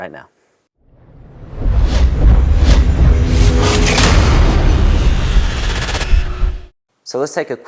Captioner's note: sound effect